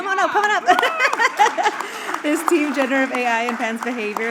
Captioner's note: laughs